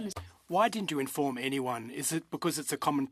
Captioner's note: speaking in French